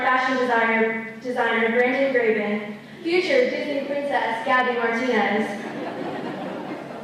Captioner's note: laughter